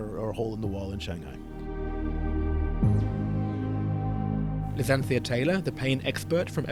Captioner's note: voiceover